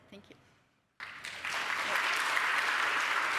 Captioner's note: applause